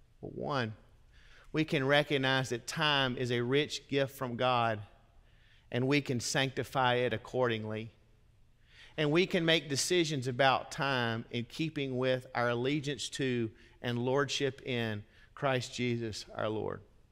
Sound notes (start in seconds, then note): none